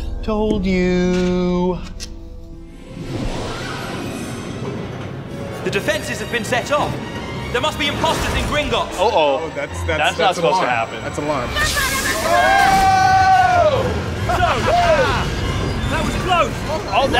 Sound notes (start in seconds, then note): 2.3 dramatic music; 11.9 both screaming; 12.2 wizard screams; 14.2 laughs